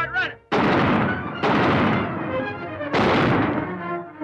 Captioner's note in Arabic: صوت طلقات نارية